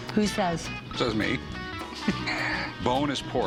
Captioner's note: laughs